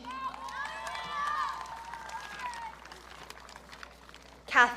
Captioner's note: audience cheering